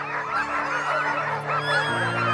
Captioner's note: dogs barking; suspenseful music